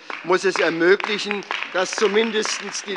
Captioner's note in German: Beifall bei der SPD und der FDP